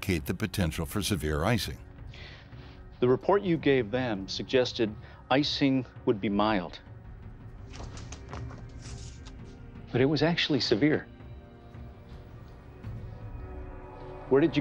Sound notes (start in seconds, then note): 7.6 papers rustle; 11.1 suspenseful music